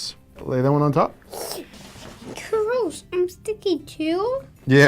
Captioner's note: gasps